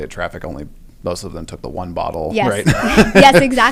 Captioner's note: laugh